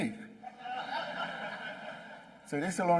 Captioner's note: laughing